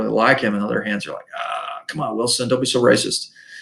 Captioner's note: groans